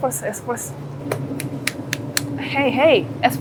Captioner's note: clap clap clap clap clap